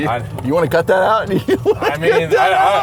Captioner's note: lauging